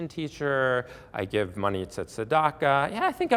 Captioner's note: Hebrew